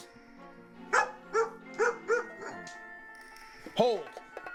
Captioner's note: max barks